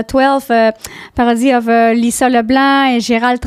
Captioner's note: in french